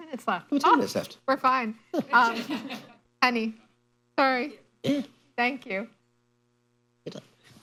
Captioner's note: laughter